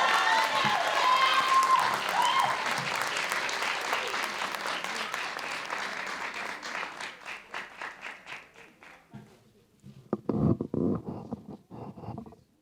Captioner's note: cheers and applause